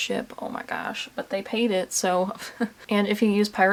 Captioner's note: chuckles